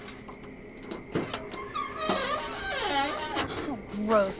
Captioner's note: trunk lid creaking